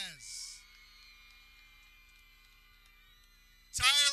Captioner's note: people cheering